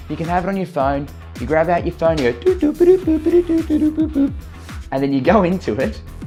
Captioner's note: mimics beeping